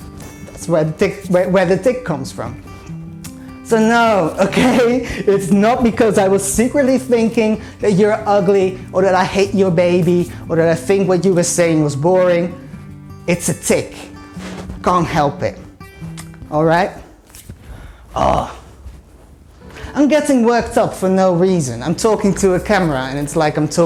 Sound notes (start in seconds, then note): 18.1 frustrated grunt